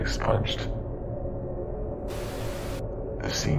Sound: static

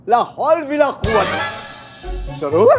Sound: yells a Urdu prayer

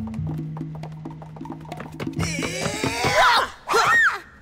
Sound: all grunting

